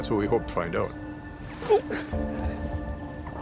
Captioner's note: grunts